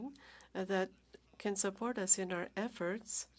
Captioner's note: speaking French